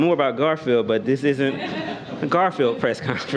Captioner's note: laughter